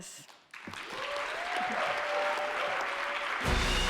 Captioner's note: audience applauding; upbeat music